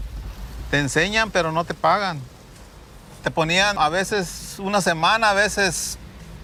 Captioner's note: continues speaking in Spanish